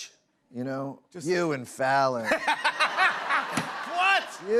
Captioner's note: laughter